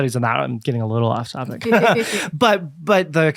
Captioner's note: laughs